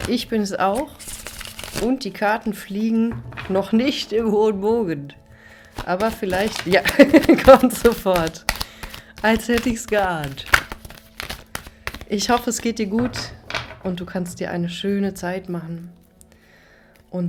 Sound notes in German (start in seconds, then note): 6.9 gelächter